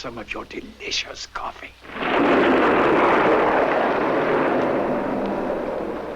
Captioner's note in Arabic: هدير الرعد